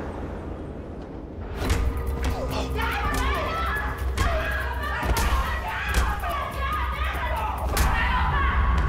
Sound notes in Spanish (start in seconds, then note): 2.8 Golpes; 4.9 Gritos